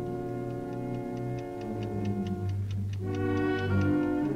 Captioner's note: ticking